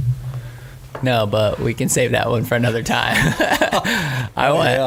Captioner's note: laughs